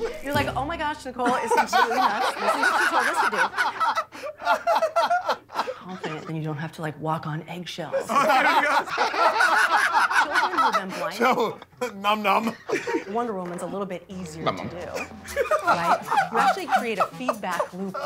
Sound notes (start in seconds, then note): 1.2 laughter; 8.0 Jokers laughing